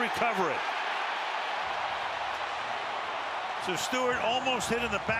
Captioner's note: cheering